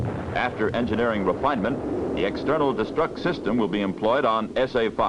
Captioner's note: sound of Explosion